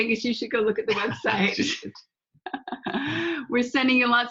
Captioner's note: laughing